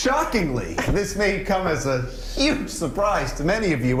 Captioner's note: laughter